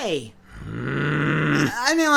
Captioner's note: angry grumble